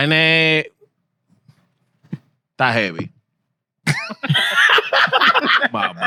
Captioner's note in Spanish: Hablando en idioma extranjero; Riendo